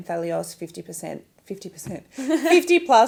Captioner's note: laughs